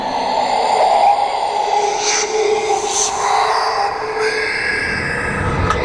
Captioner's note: ghostly Whispers